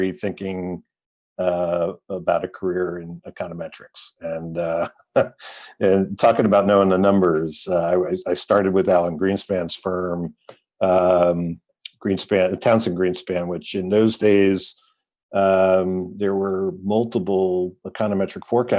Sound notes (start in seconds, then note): 5.1 chuckles